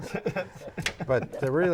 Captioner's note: laughing